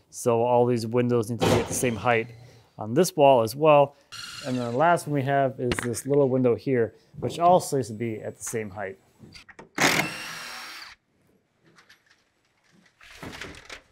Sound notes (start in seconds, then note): 2.1 nail gun banging; 4.1 drill whirring; 9.7 drilling whirring